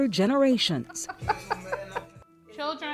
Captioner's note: laughing